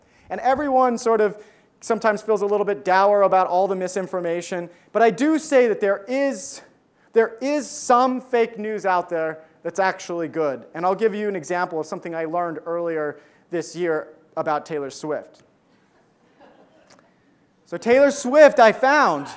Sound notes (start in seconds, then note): 16.2 audience laughs